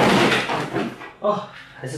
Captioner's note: more books falling off